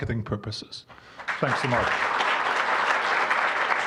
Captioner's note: applause